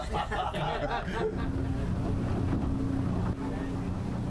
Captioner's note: laughter